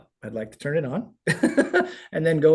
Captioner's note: laughing